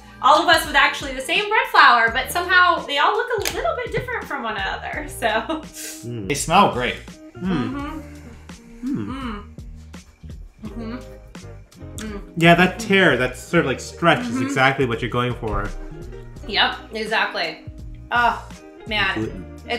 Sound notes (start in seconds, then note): 5.7 chuckles